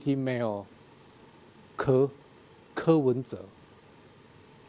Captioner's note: speaking in a foreign language